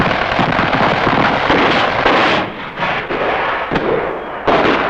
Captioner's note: guns firing